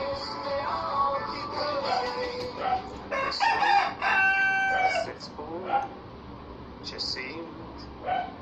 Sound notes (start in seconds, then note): 3.0 cock-a-doodle-doo